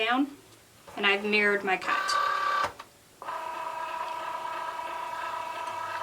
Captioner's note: machine whirring